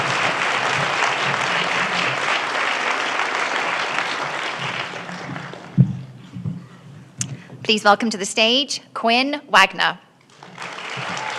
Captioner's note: applause